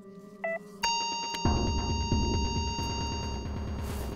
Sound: heart monitor flatlines

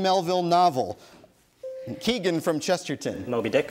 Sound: bell dings

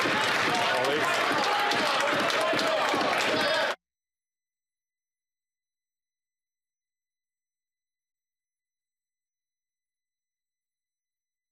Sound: applause

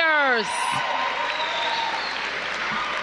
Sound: applause

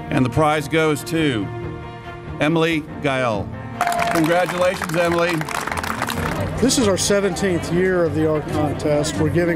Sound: applause

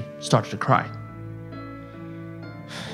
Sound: sighs

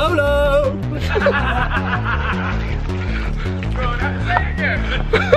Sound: laughter

